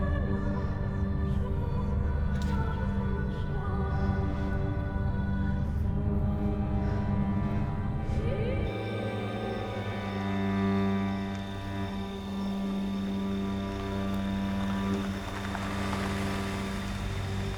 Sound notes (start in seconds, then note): 3.1 eerie music continues; 12.7 car rumbling